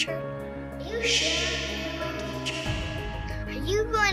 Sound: echo

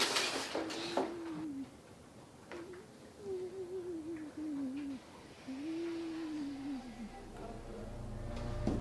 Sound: low sensual wailing

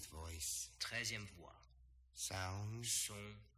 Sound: speaking french

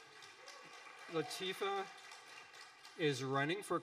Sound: audience applauding

